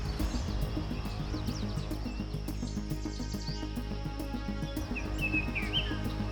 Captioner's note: birds chirping